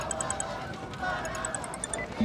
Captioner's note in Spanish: suena el celular